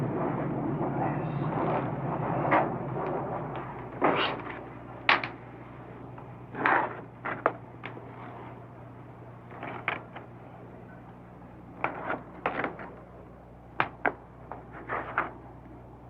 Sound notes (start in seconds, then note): 9.0 slicing sound